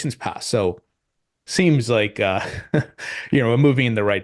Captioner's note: chuckles softly